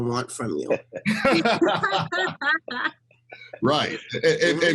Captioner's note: all laughing